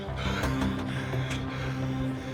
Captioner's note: breathing heavily